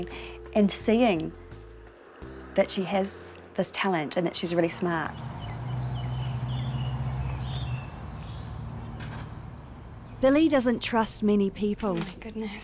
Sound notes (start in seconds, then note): 4.6 birds tweeting